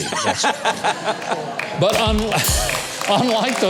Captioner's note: laughs; drum rimshot